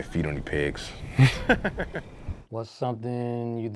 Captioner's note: laughs